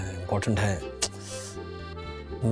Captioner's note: clicks tongue